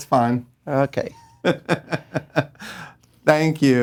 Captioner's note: laughing